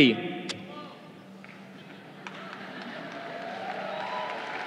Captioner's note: crowd cheering